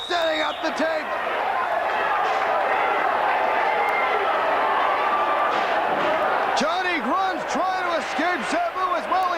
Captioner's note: crowd cheering